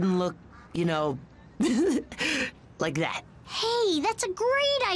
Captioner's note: laughs